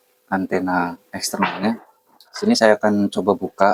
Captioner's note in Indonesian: berdehem